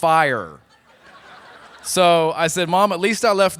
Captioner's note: laughter